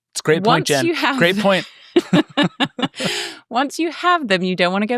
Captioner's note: laughs